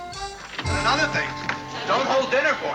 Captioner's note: yells